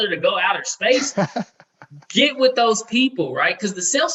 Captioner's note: laughing